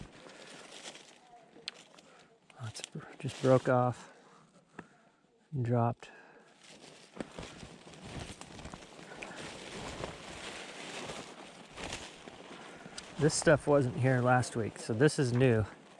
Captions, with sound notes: It just broke off and dropped. (brush rustling) This stuff wasn't here last week, so this is new.